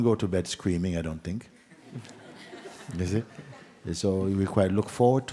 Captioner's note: laughter